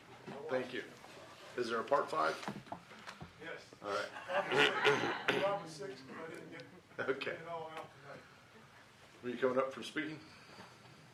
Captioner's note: laughter